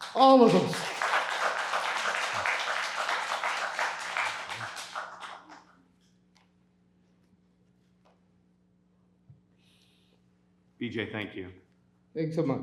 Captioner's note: applause